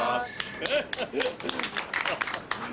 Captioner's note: all applauding